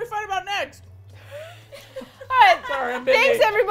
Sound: laughs

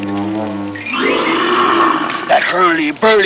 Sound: Cruzatte snarling

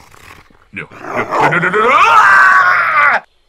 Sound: dog Snarling; dog Attacks

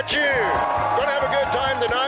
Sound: crowd cheering

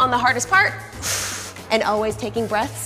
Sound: inhales loudly

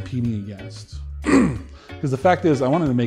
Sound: clears throat

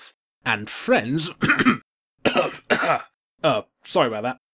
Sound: coughing

